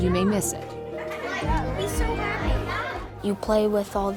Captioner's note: kids talking